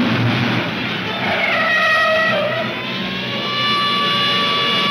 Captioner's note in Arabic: اصرير الاطارات